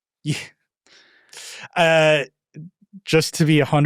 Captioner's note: laughing